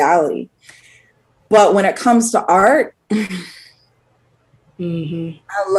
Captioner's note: sighs